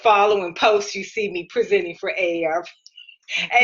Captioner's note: giggling